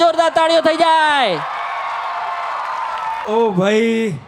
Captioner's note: crowd applauding